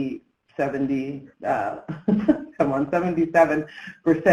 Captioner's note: chuckles